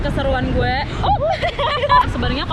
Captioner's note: laughs